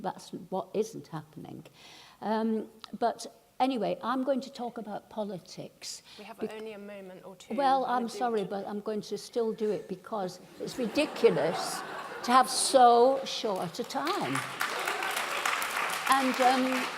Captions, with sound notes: that isn't what's happening. But anyway, I'm going to talk about politics. - We only have a moment or two. - Well, I'm sorry, but I'm going to still do it because it's ridiculous [laughing] to have so short a time. [clapping]